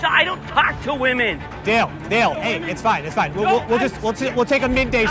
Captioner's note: none